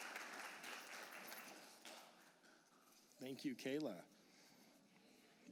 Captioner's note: applause